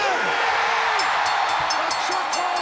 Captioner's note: audience cheering; bell ringing